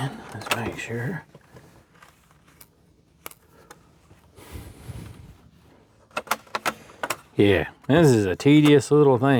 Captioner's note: breathing